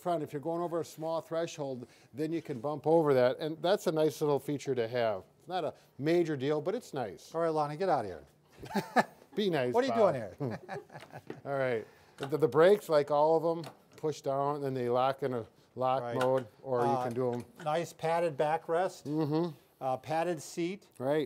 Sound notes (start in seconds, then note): 10.0 laughing